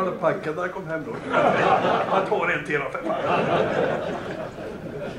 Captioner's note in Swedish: Skratt